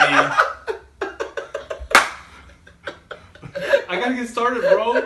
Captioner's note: laughing